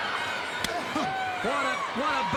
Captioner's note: chop striking